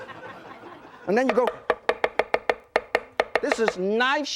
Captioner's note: loud chopping